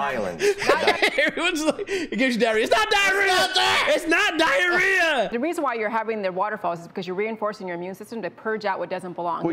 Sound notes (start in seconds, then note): 3.2 laughter